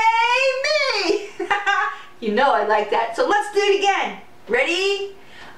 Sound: laughter

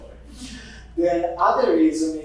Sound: audience giggling

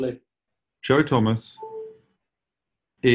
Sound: apple charging sound effect

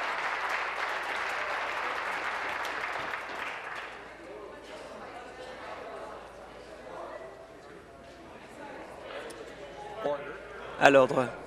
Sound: applause

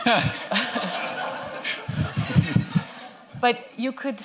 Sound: laughter

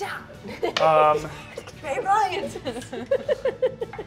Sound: players laughing

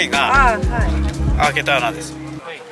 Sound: vendor speaking in foreign language; speaking in foreign language; vendor speaking in foreign language

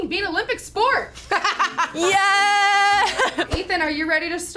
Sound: laughs

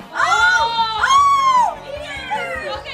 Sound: yelling

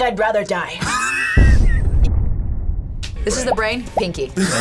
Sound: laughs; explosion echoes

